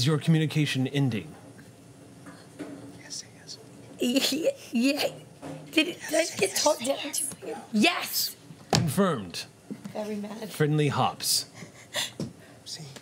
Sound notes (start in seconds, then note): 4.5 Hopps stuttering